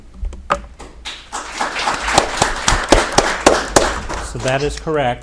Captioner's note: audience applauding